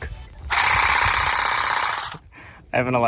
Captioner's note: whirring